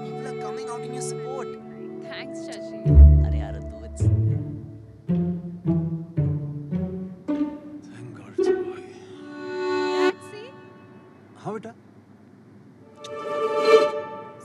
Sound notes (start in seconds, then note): 9.0 Sighs; 13.0 Kisses